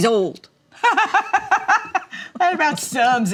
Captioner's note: mama laughs